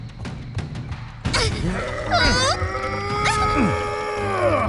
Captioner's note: all grunting